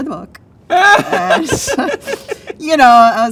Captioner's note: laughs